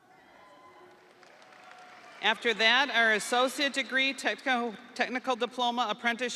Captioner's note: audience cheering; audience applauding